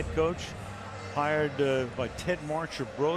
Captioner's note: none